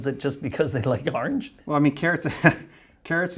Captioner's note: laughing